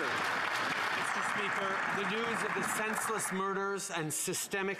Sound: some Applause

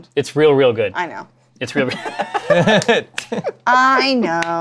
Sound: laughter

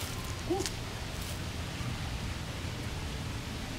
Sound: gentle yell

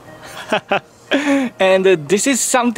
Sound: chuckles

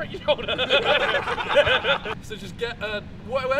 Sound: laughter

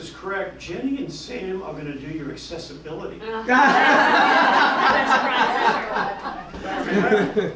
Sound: laughing

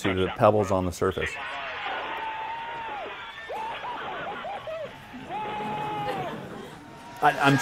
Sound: cheering - on video

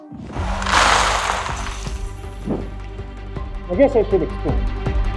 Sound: legos clattering

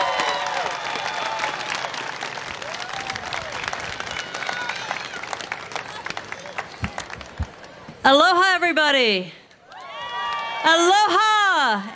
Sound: applause

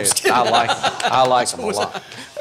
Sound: laughing

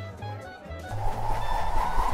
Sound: whooshing newspaper

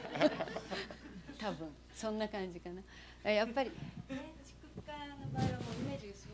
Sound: laughter; non-english speech

